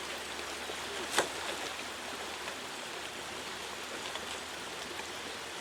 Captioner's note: the sound of falling into water